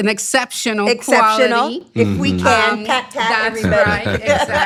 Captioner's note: laughs